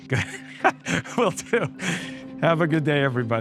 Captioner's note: laughs